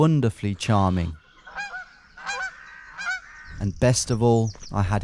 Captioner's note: geese squawk